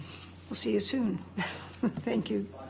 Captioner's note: laughs